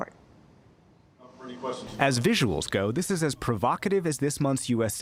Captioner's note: voice-over